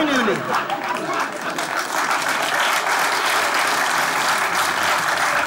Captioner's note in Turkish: Alkış sesleri